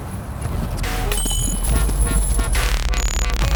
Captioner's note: disc hitting chains; dubstep music